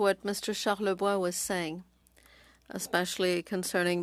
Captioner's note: speaking French